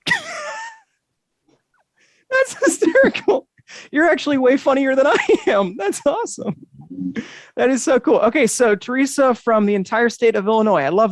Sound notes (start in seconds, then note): 0.0 chuckles